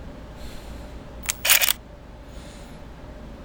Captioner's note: camera shutter click